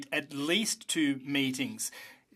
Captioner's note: speaking French